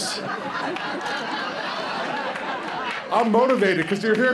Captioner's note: laughter